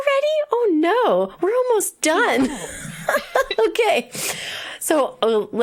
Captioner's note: laughs